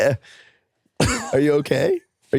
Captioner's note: laughs